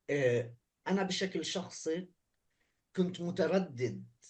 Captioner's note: speaking arabic